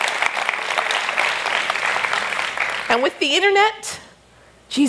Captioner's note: applause